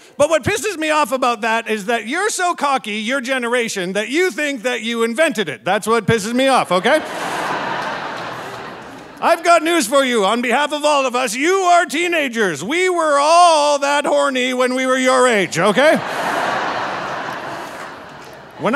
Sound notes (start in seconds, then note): 6.7 audience laughing; 15.4 audience laughing